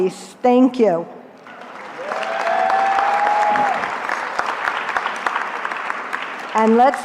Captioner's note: cheering